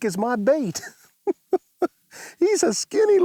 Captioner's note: laughs